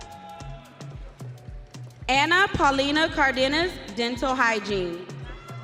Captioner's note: audience cheering